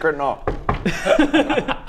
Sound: knock knock

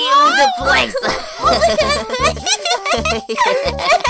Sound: giggling

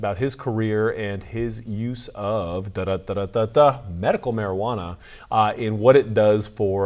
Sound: vocalizes fanfare

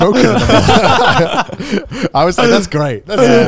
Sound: all laugh

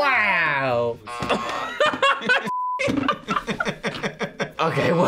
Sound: buzzer rings; laughs

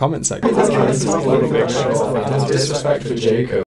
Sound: endless jabber

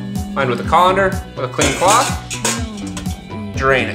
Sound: pans rattle

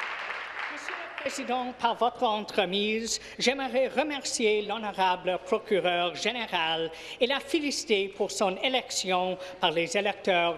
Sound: applause

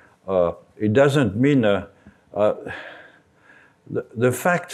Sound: sighs

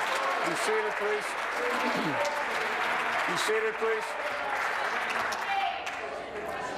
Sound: applause

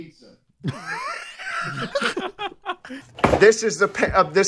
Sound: laughter

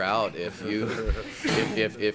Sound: laughing

